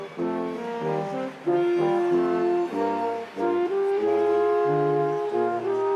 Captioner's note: instrumental music continues; crowd applauding